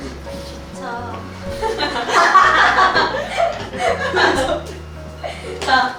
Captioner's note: hahaha